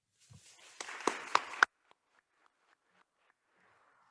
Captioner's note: attendees applauding